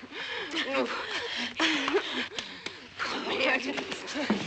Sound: women groaning

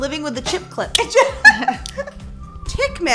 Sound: laughing

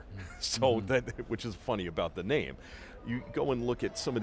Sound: chuckles

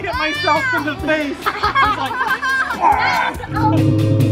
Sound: children laughing; slow eerie music

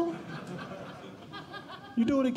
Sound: audience Laughing

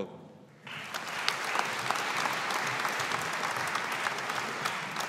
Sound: audience applauding

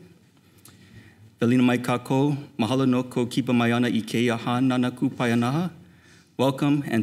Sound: speaking Hawaiian

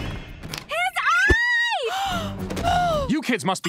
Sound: gasping

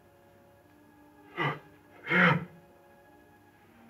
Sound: gasping

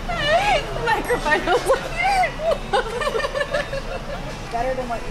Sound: laughing

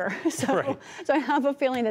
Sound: laughter

